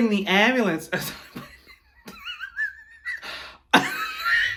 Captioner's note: chuckling